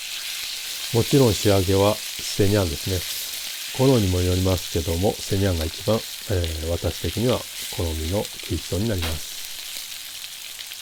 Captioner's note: searing